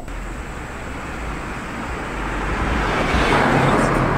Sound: car passing

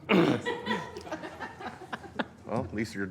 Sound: laughter

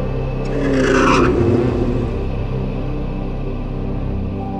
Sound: engine roaring

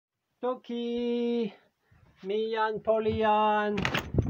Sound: English

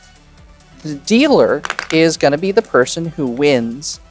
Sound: chips clattering

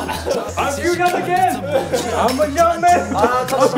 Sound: laughing

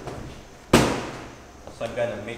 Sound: smack

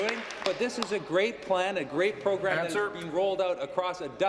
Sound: applause

